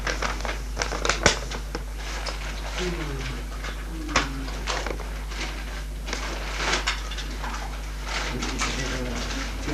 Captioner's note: in French: 25